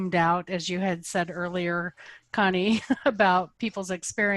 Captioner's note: laughs